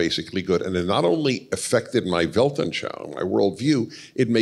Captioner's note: Yiddish